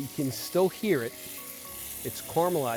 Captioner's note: sizzling